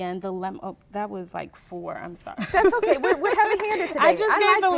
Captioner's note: laughter